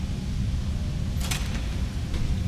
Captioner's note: gates opening